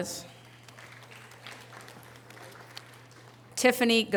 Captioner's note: audience applause